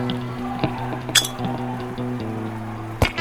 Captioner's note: grenade pin noise